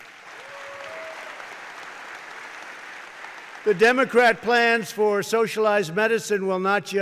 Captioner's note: applause